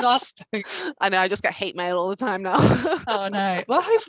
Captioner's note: laughter